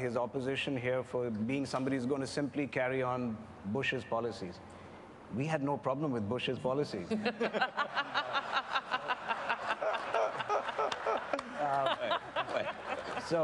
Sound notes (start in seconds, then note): 7.1 laughter